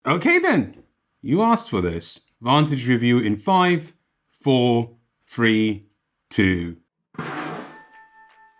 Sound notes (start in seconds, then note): 7.1 thud; 7.9 ethereal music